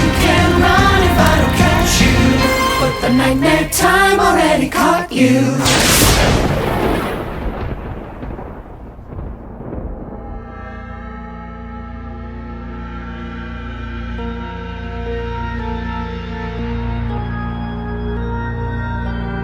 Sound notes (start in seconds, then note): 5.5 lightning cracks; 10.0 soft music